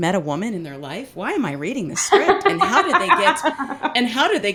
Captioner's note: laughs